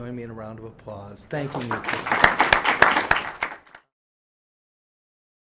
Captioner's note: students applauding